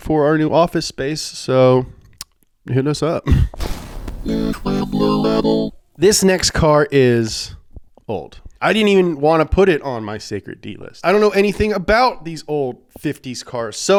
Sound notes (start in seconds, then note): 3.5 crashing sound